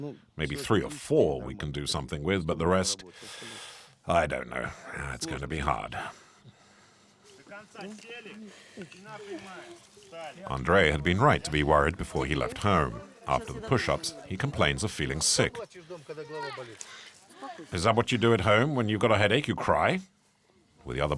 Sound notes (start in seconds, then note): 7.3 Russian spoken audio